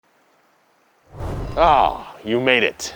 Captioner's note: background draft gusting